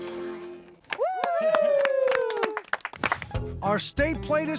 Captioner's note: cheering, applause